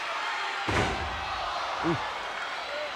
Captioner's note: body thuds